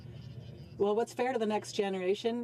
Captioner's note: speaking French